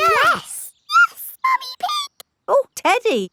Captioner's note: in high-pitched voice